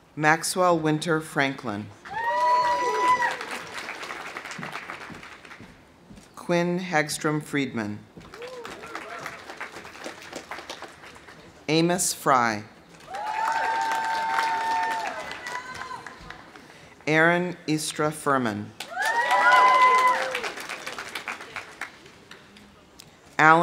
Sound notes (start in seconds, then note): 2.0 audience cheering; 2.1 audience applauding; 8.2 audience applauding; 8.3 audience cheering; 13.0 audience applauding; 13.0 audience cheering; 18.8 audience applauding; 18.8 audience cheering